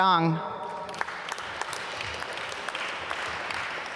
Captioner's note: applause